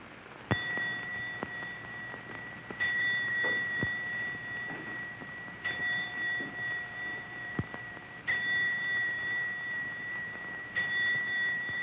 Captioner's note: bell ringing